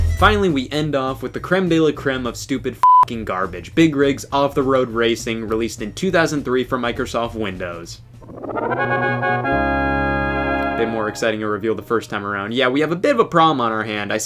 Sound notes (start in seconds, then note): 2.8 beep; 8.2 upbeat music